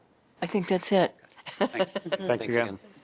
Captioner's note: laughter